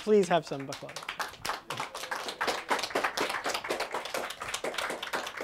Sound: applause

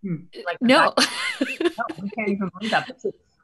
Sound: laughs

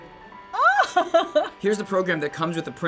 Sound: squealing with delight

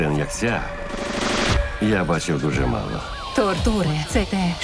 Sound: sirens wailing

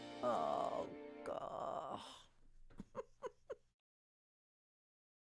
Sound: laughs

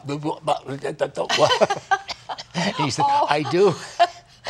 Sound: laughter

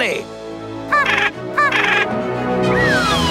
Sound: penguin noises

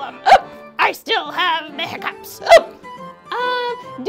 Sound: hiccups; hiccups

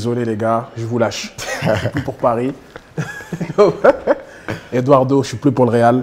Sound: laughs

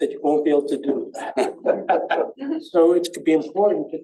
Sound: laughter

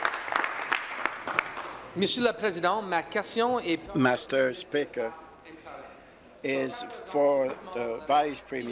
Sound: applause

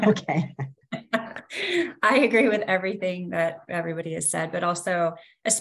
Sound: laughs

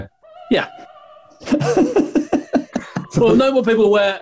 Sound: laughing

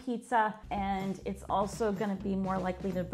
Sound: none

